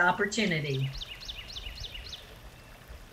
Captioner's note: bird chirping; water burbling